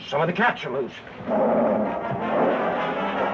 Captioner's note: cats growling